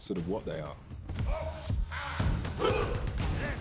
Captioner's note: all grunting